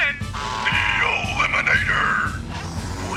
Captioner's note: in deep voice